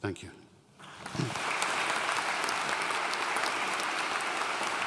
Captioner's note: audience applauding